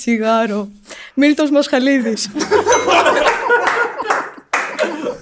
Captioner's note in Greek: γέλια